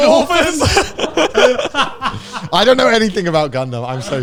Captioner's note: everyone laughing